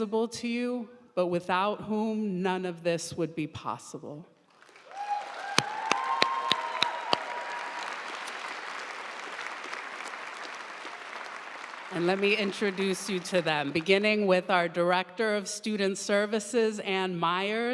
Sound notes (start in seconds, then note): 4.6 audience cheering and applauding